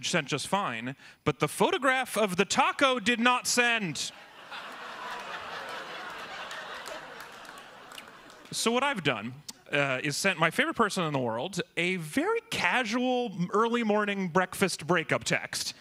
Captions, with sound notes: PHOTOGRAPH OF THE TACO DID NOT SEND! ( AUDIENCE REACTS ) ( LAUGHTER ) SO WHAT I'VE DONE, IS SENT MY FAVORITE PERSON IN THE WORLD A VERY CASUAL EARLY-MORNING BREAKFAST BREAKUP TEXT AND THE END GONE RADIO SILENT.